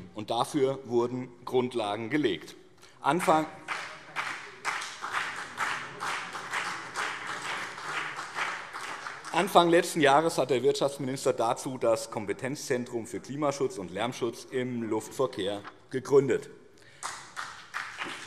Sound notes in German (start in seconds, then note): 3.1 Beifall BÜNDNIS 90/DIE GRÜNEN und CDU; 16.9 Beifall BÜNDNIS 90/DIE GRÜNEN, vereinzelt CDU